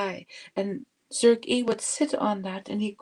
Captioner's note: speaking Indigenous language